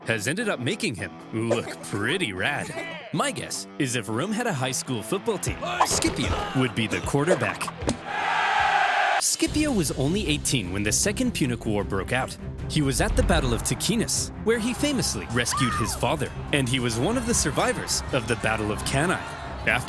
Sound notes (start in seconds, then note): 7.9 upbeat rock music; 8.0 people cheering